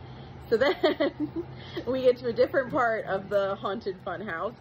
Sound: giggles a bit

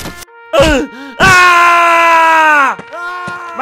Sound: screams

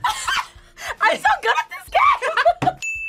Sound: laughs; both laugh; bell rings

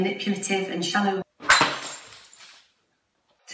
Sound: glass smashes

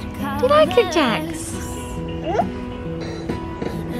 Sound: coos; toy music

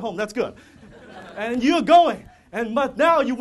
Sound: audience laughter

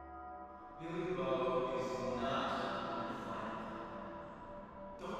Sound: mysterious voice

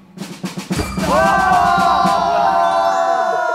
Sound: crash

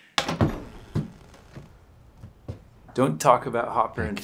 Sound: door clacks

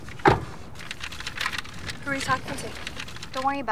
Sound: paper rustling

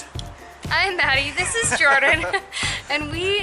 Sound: laughter

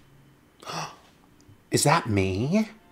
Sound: gasps

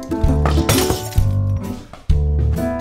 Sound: lamp smashes

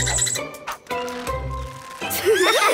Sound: squeaking

